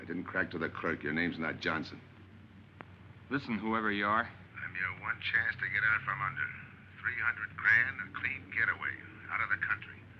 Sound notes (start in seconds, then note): 4.6 on phone